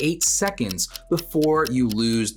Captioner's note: clock ticking